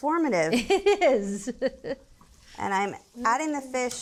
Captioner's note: laughs